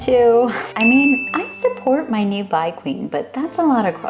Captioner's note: ding sfx